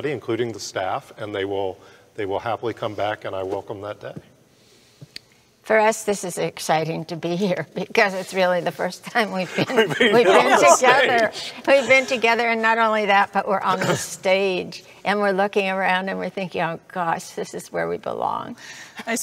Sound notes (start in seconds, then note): 9.4 laughing